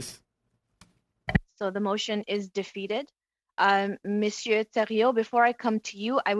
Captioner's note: speaking French